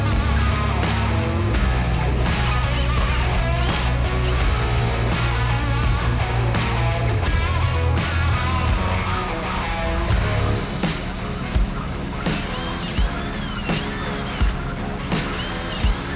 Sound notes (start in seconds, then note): 3.1 drill buzzing; 6.3 upbeat music continues; 12.4 drill buzzing